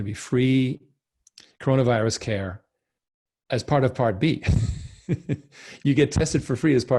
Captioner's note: laughs